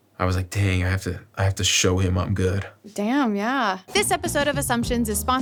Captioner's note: none